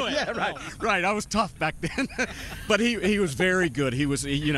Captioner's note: laughter